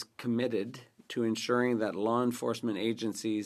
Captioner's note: speaking French